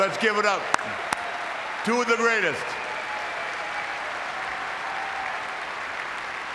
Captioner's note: audience clapping